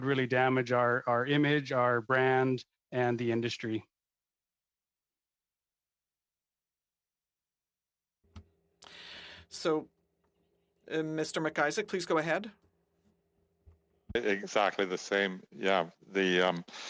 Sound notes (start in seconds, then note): 13.9 speaking French